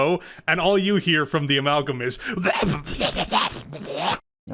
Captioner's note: monster noises